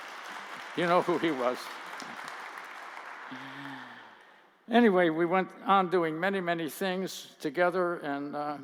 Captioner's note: applause